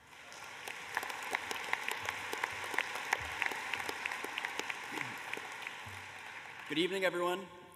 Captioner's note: applause